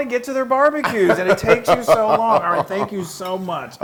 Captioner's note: laugh